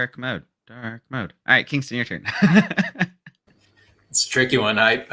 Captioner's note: laughs